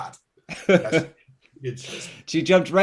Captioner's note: he laughs